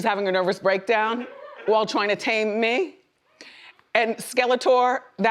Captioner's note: woman laughs